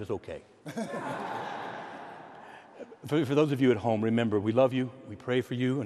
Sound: laughs

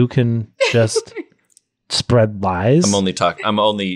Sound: laughs

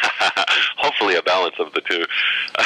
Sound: laughter

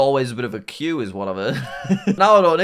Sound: laughs

